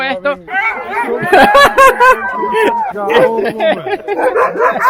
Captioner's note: more laughter and more barking